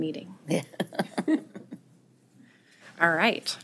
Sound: laughter

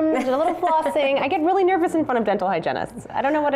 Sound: laughter

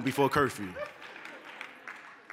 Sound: applause

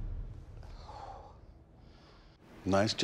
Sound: exhales heavily

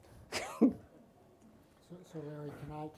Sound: laughs

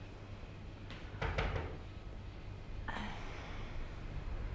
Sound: knocks

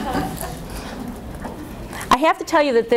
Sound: audience laughs

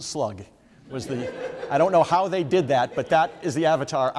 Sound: audience members laugh

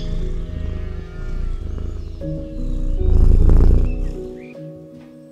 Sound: Milo purring

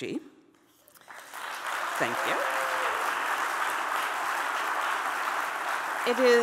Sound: audience applauds

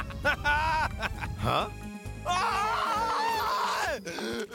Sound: evil laughter; screaming; grunting in effort

